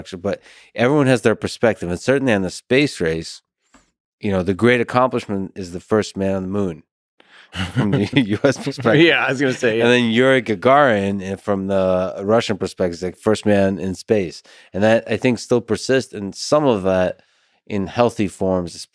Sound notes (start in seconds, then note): 7.5 Lex laughs